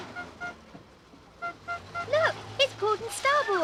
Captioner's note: horn beeping